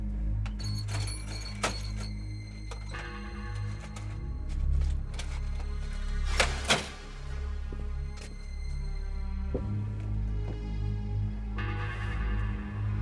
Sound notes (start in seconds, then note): 0.4 cash registering dinging